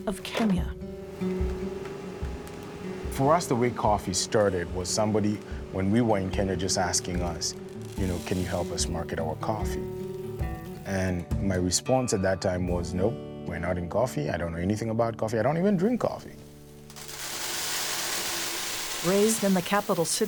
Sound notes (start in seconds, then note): 1.1 soft guitar music; 2.0 grain grinding; 17.9 grain pouring